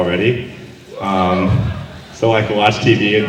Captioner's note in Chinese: 嗚!!